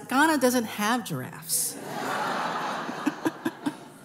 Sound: laughter

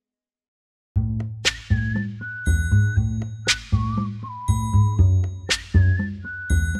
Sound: upbeat music; kids whistling

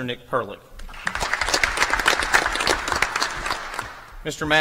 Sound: applause

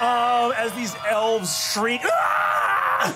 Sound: screams

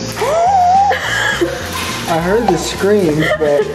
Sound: gasps

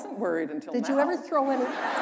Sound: laughter

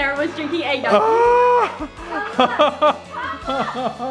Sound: gasps

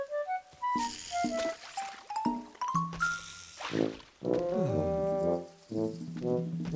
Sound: sighing

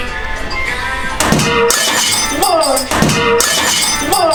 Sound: A sound of something breaking

